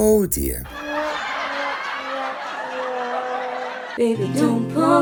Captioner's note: laughter; singing